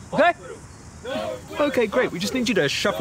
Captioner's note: sighs